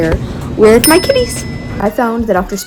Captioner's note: bell dings